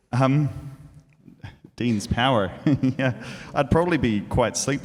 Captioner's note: laughs